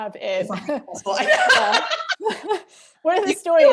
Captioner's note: laughter